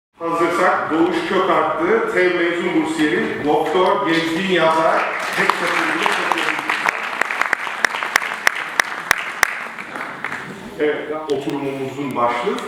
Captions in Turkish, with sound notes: "Hazırsak, Doğuş Kökarttı TEV Mezun Bursiyeri. Doktor, Gezgin, Yazar. (Alkışlar) Evet. Oturumumuzun başlığı